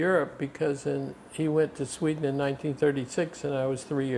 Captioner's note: none